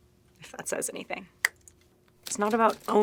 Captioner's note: clicking tongue